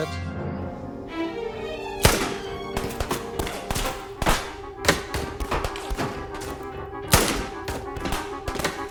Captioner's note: guns firing; dramatic music